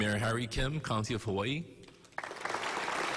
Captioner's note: applause